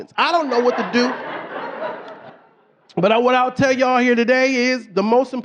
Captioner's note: audience laughing